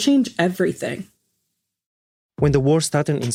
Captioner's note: silence